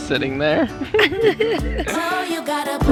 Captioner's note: chuckling